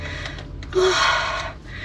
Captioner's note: sob